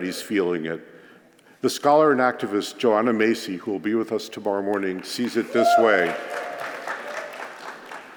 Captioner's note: applause